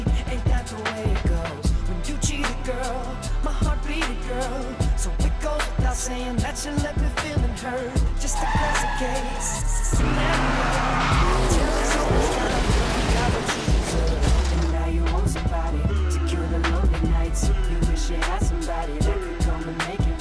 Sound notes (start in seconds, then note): 8.2 tires squealing; 13.8 car crashing